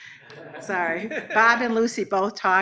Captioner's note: everyone laughs